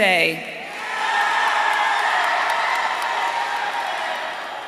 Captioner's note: audience cheering